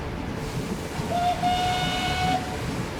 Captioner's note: whistle blows